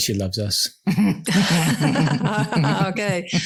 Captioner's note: everyone laughs